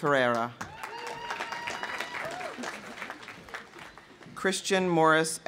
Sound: audience applauding; audience cheering

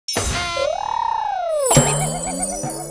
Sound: trills; boing!

